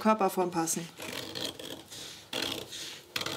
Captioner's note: cutting noises